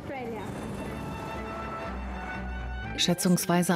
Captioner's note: audience applauding